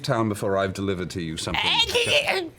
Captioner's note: squawks